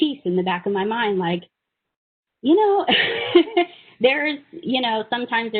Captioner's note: laughing